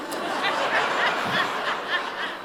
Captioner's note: laughter